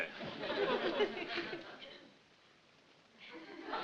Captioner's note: audience laughing